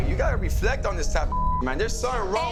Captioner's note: beep